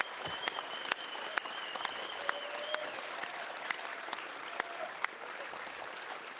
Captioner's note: speaking in French